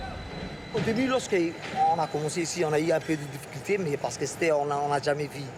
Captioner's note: speaking foreign language